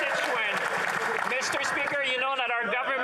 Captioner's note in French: voix de l'interprète